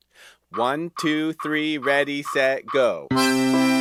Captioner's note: metronome clicking